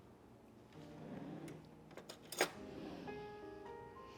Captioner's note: drawer opens